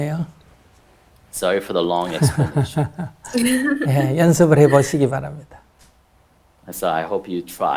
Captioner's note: laughter